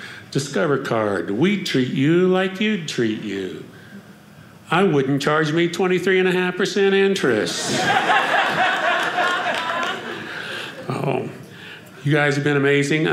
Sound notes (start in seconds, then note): 7.5 audience laughing